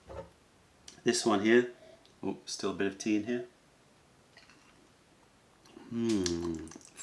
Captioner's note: sips tea